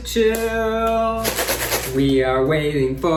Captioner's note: bag rustles